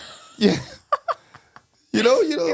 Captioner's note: laughing